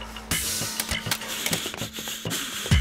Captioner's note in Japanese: 銃を置く音